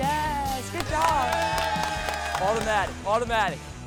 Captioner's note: cheers